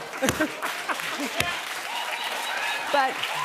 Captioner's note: cheers and applause; laughter